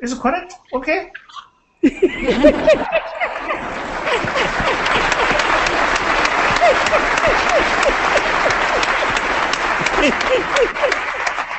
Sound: laughter

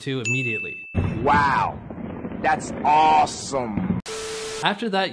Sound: static

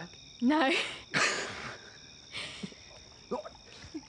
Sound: laughter

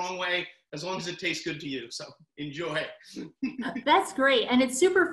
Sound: laughs

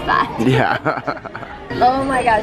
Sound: laughs

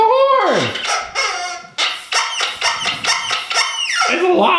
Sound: horn honking

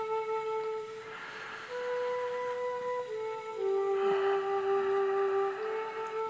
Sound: breathes deeply

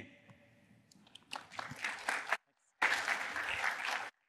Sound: applause

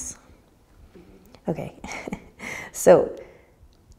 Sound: laughs

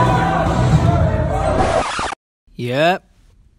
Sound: record scratch

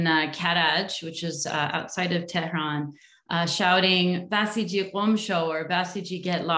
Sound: non english speech

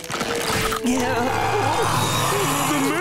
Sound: groaning; growling

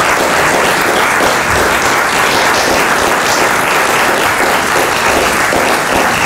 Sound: applause

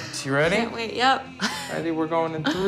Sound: chuckles

